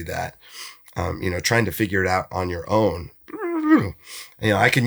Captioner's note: groans